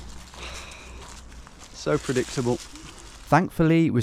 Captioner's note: sighs